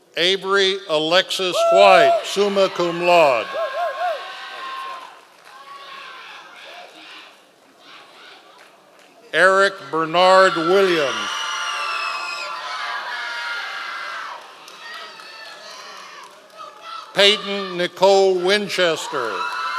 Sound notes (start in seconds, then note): 3.8 members of the audience cheering; 10.2 members of the audience cheering